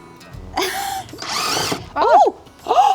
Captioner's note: drill spinning smoothly